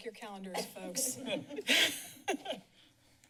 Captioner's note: laughing